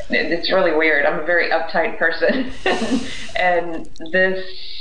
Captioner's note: laughs